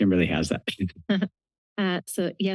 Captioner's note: chuckles